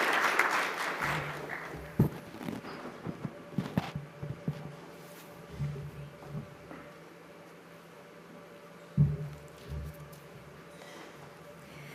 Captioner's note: applause